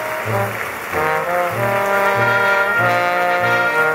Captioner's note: applause